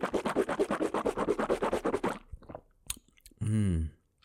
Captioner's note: drinking water noises